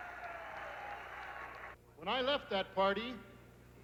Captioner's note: crowd cheering